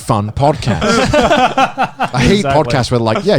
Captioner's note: laughs